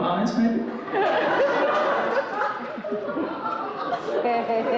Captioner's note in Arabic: ينفجر الحشد بالضحك